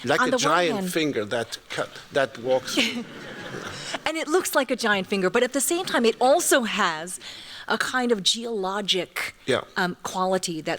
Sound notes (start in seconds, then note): 2.7 laughter